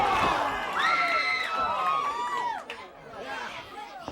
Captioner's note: crowd cheering; crowd chatter